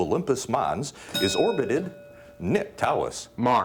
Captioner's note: bell dinging